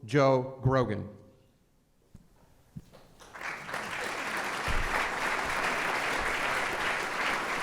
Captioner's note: applause